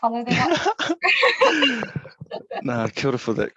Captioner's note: all laughing